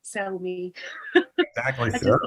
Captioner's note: laughs